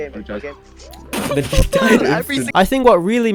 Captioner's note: laughs